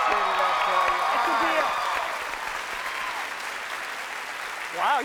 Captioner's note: cheers and applause